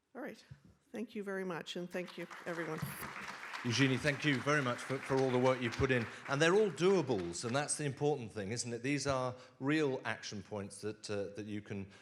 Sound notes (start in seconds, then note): 2.0 audience claps